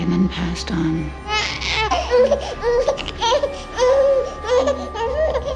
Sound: baby crying

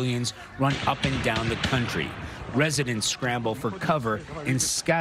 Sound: explosions

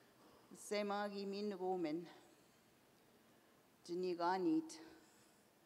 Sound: in Indigenous language for next half minute

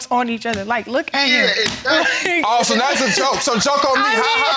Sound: laughs

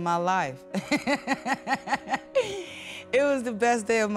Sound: woman laughs

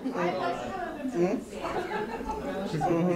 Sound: people are laughing

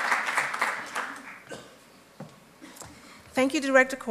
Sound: applause

